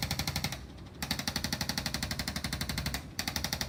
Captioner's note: tool vibrates noisily